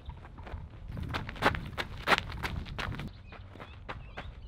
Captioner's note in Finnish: juoksuaskelia